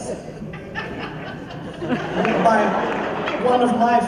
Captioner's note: laughter